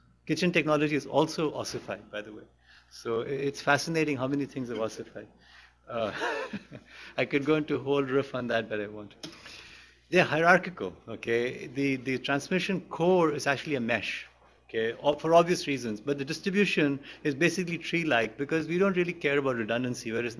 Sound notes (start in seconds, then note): 6.0 laughs